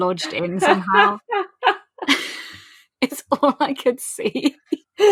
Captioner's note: laughing; laughs; laughs